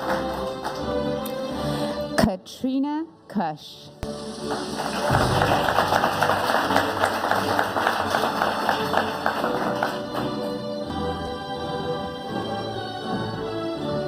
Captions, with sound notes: Katrina Kush. (audience applauding) (upbeat music)